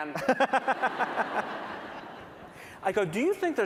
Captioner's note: laughter